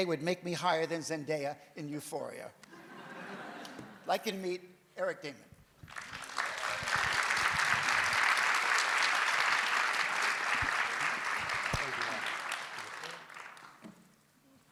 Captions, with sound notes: would make me higher than Zendaya in "Euphoria." [AUDIENCE LAUGHS] I'd like you to meet Eric Daman. [AUDIENCE APPLAUDS]